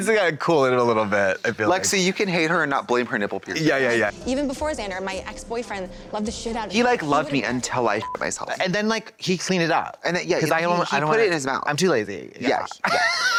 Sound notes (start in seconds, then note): 8.0 beep